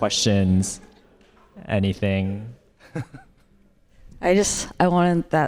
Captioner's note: audience laughs